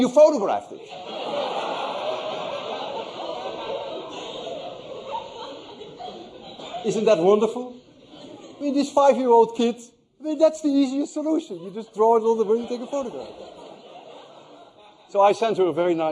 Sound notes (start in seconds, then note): 8.9 laughter